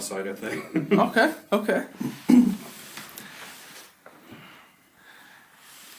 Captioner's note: laughs